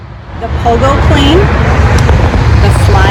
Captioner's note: airplane Noise